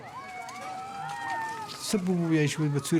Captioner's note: cheering; speaking Pashto